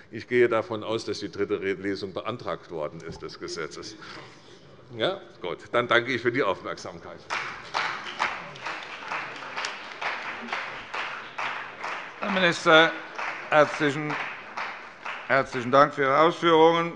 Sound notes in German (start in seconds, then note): 8.9 Beifall bei der CDU